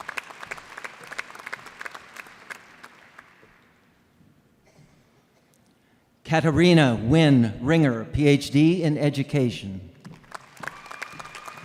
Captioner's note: applause